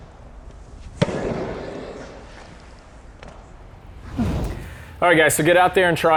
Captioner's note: racket hitting the ball